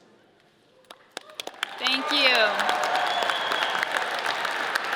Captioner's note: audience cheers